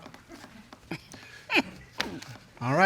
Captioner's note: chuckles